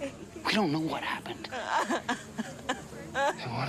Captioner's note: speaker sobs